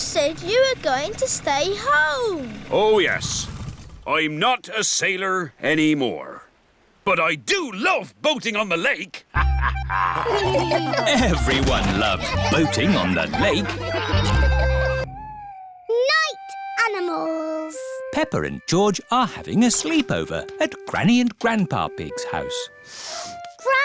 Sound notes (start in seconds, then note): 9.3 all laugh; 9.3 chuckles